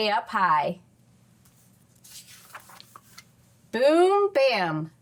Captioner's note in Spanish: crujido de página